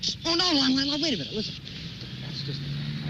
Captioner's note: whispering